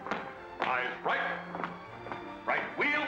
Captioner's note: boot steps